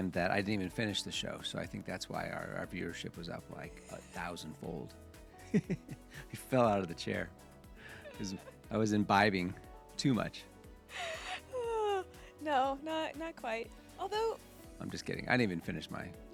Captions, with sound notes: that I didn't even finish the show. So I think that's why our viewership was up like a thousand fold. We fell out of the chair. Cause I was imbibing too much. (sighs) No, not quite. Although. I'm just kidding. I didn't even finish my,